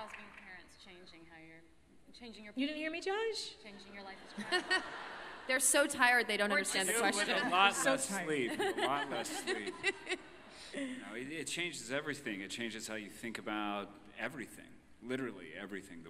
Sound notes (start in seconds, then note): 6.0 laughter